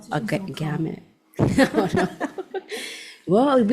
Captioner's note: group laughs